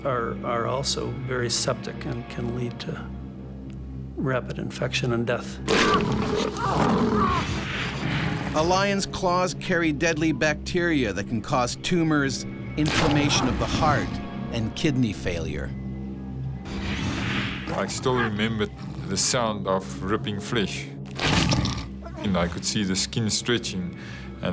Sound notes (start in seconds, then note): 5.7 growling; 8.8 voiceover